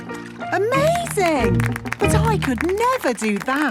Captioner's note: clapping